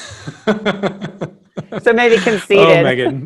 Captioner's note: laughing